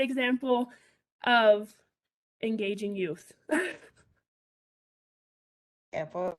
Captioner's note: laughs